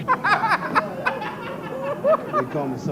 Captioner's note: laughter